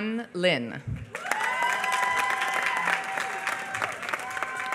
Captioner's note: applause